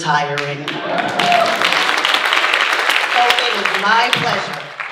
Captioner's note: audience cheering and applauding